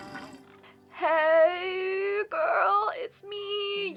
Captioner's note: voice message